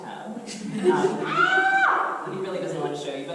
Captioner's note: screams